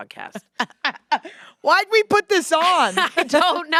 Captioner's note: laughs